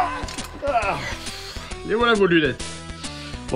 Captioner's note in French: Soupir